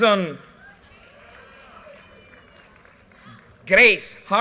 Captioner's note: audience cheers and applause